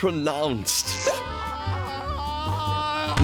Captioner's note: screaming